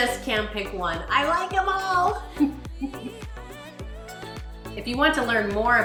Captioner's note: giggles